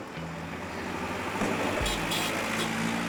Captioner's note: honking